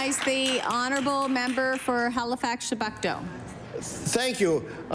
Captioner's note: applause